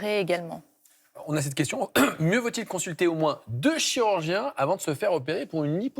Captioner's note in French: raclement de gorge